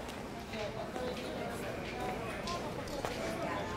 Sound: background chatter

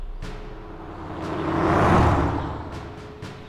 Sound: truck drives

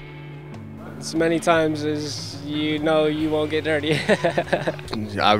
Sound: laughing

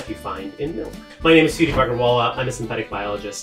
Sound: air whooshing

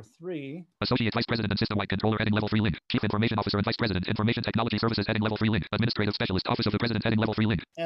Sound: screen reader reads fast

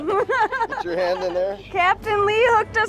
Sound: laughs

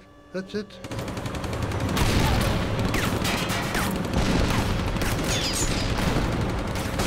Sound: rapid gunfire exploding; cannon shots exploding

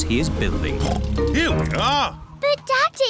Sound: oinks

